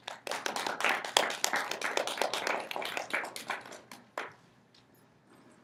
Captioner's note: applause